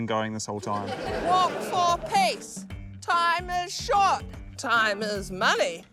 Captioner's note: laughter